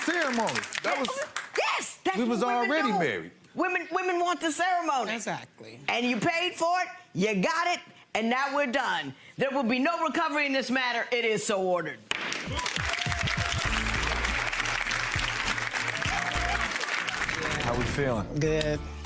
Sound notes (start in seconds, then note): 12.0 audience claps; 13.0 upbeat music